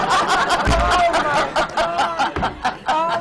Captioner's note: laughter